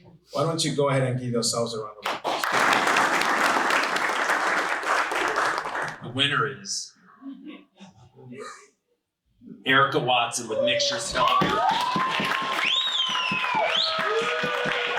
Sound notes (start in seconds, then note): 2.0 audience applauding; 11.0 applause